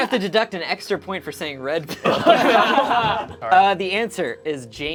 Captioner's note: group laughs